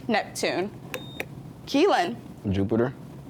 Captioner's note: buzzer beeps